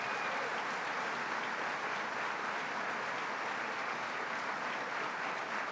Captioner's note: applause